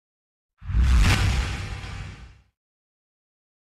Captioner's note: whoosh